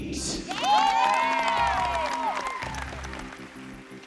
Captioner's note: applause, cheering